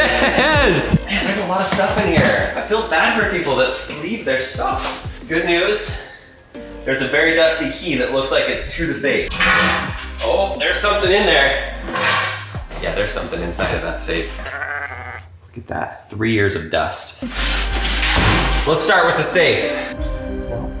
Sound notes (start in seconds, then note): 9.4 safe clatters; 14.3 sheep baas